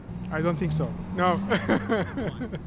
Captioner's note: laughs